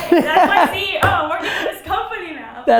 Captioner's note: Gary laughs